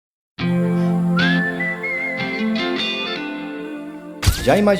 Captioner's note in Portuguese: assobio